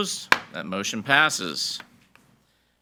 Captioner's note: gavel bangs